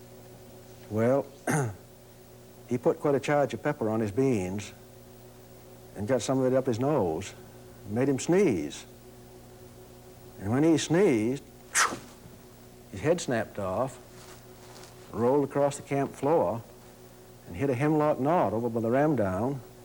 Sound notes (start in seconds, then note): 11.7 sneezes